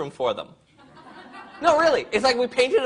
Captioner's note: crowd laughs